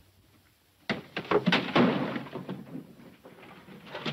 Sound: clattering

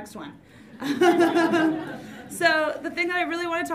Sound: audience laughs

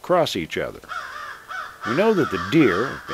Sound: crows calling

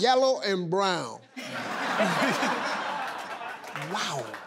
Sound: laughing

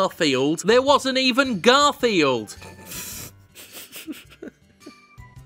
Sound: sniggering

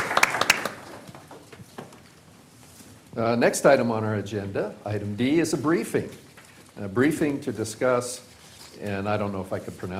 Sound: applause

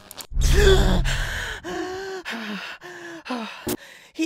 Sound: clicking; pinkie catches her breath

